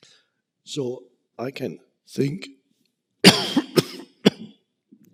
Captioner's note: coughing